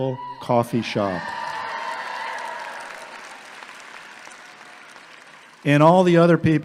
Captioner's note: audience clapping and cheering